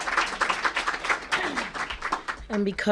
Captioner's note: applause